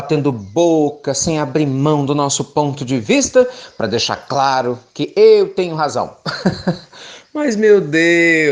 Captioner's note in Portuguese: risos